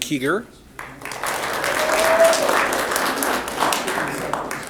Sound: applause

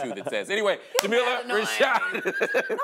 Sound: laughs

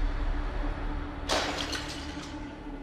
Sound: pot clatters

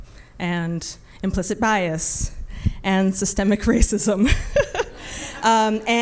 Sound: laughs

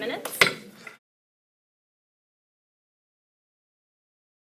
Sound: gavel pounds

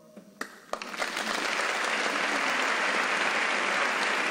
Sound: hands clapping

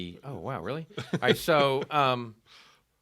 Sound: laughing

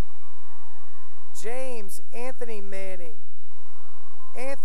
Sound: cheering; cheering

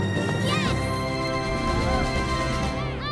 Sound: cheering

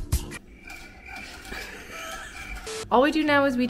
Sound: crickets chirping

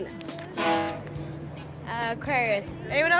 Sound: boat horn

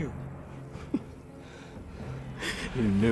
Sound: laughing

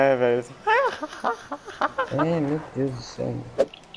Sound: worst fake laugh ever

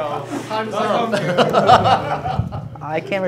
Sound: laughing

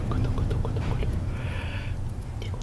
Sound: inhale

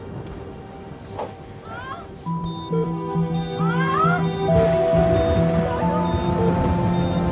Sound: screaming

